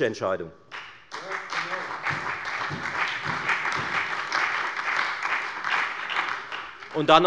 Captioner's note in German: Beifall bei der FDP, der SPD und bei Abgeordneten der LINKEN